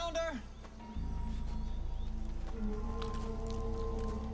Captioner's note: birds chirping